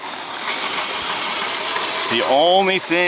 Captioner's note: wheel whirring